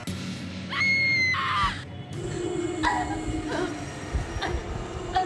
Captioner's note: whimpering